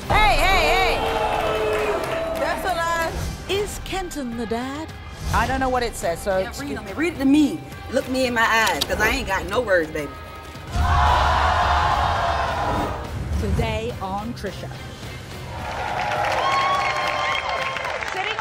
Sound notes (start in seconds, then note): 10.7 crowd yelling; 15.5 applause